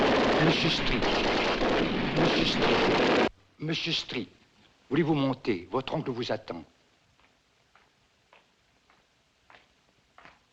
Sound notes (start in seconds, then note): 4.3 man Speaking French